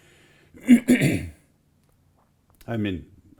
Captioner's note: clears throat